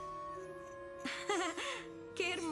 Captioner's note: awkward laugh